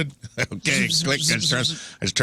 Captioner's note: laughter